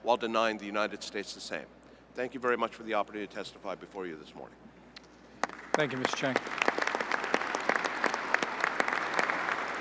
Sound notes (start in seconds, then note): 5.4 applause